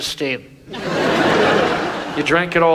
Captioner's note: audience laughs